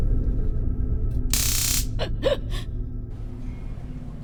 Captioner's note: electricity crackles; sobbing